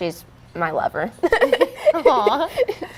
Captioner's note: both laugh